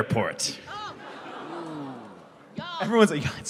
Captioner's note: audience groans